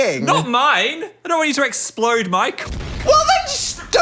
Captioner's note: explosion booms